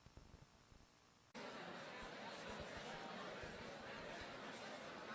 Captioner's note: chatter